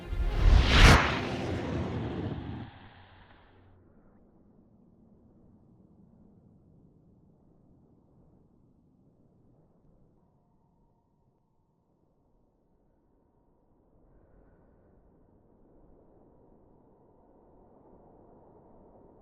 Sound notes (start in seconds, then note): 0.2 distorted whirring; 3.8 wind whistling